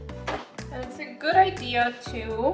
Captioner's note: paper towel tearing